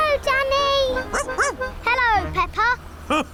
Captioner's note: barks; laughs